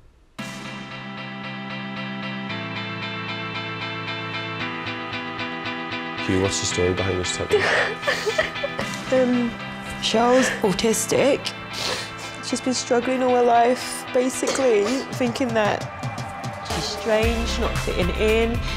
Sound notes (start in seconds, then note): 0.3 light music; 7.5 crying